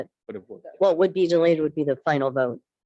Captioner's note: multiple murmurs